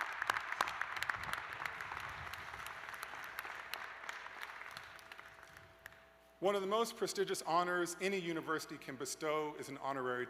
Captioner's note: applause